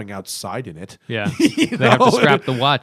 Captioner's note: laughter